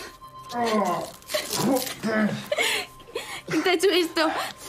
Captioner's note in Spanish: se queja